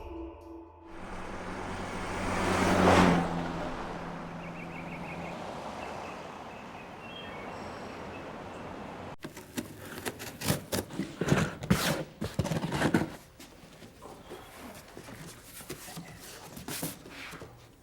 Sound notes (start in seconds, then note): 3.3 birds chirping